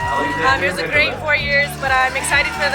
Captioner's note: crowd cheering